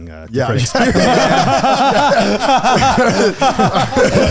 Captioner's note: all laughing